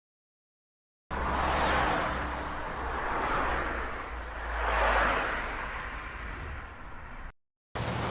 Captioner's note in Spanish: Sonido de auto circulando en carretera a alta velocidad